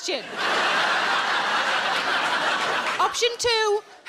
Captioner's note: audience laughs